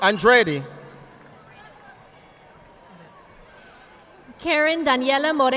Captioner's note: audience applauding